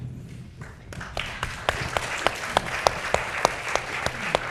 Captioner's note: audience clapping